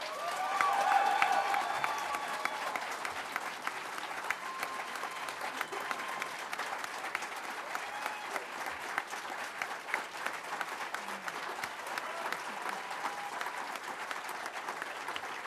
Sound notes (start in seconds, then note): 4.1 applause